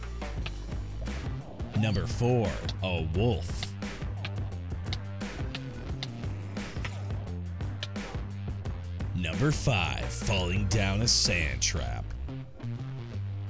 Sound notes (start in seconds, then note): 1.0 wolf cries in pain; 6.4 growling